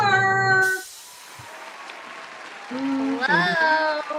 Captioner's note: sound of applause